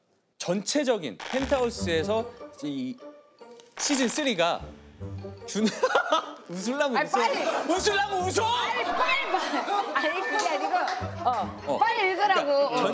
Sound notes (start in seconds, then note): 5.7 holding back her laughter